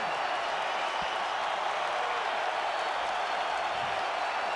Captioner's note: audience cheering